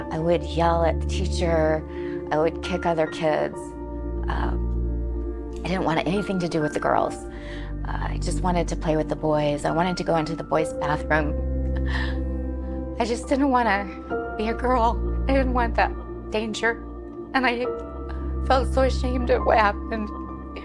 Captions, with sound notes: I would yell at the teacher. I would kick other kids. I didn't want anything to do with the girls. I just wanted to play with the boys. I wanted to go into the boys' bathroom. I just didn't wanna be a girl. (voice trembles) I didn't want that danger. And I felt so ashamed of what happened